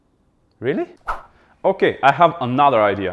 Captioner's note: swish